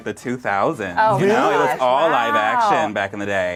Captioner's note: overlapping chattering